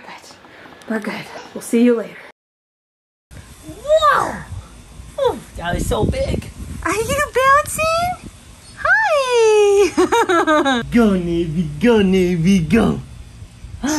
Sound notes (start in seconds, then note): 9.7 laughs